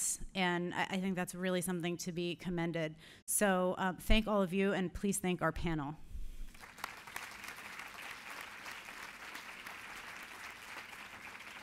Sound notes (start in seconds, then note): 6.5 applause